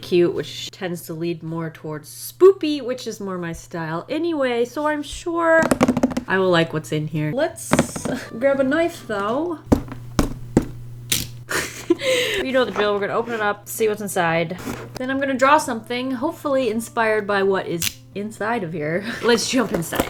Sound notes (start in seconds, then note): 5.6 fingers drumming; 7.6 tap. tap, tap